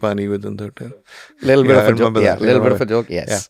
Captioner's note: laughs